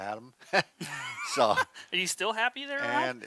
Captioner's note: both laughs